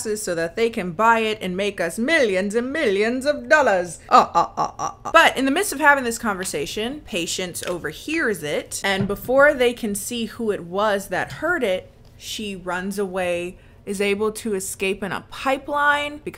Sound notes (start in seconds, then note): 4.1 laughs evilly